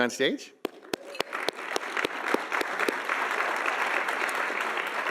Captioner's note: audience applauding